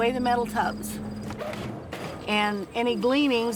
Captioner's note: machinery running